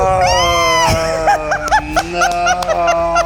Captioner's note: squeals; groans